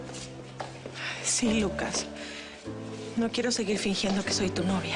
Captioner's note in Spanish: none